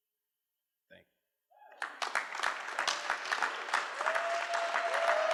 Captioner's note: cheering